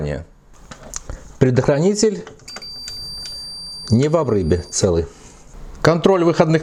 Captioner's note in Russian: Звучит сигнал мультиметра